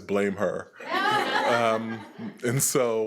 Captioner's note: attendees laughing